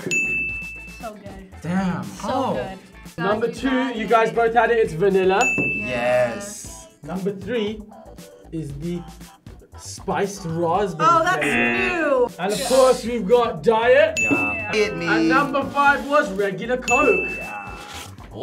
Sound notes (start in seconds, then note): 0.0 bell dings; 11.4 buzzer blares; 14.1 bell dings